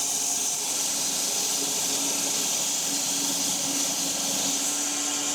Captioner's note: log saw whirring continues